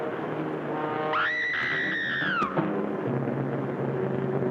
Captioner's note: dramatic music; screams